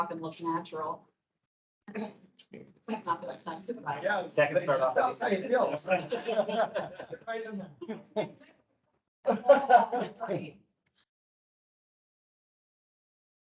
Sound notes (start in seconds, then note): 2.9 indistinct chatter; 6.7 people laughing